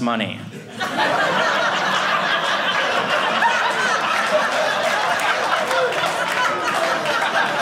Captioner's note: audience laughing